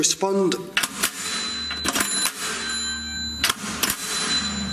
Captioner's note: bell chiming